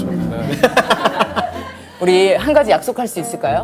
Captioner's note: laughs